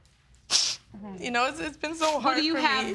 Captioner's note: sniffs